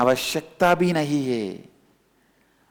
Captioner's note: hindi